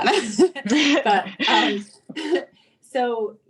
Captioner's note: chuckles